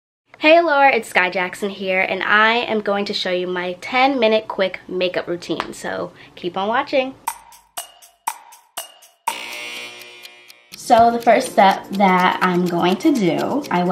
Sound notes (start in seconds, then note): 7.2 clock ticking; 9.2 buzzing